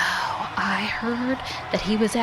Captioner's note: gasps